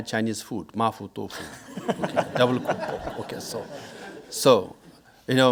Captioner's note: speaking in foreign language